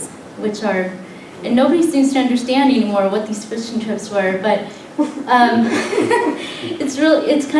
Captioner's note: laughter